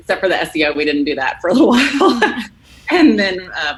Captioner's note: laughs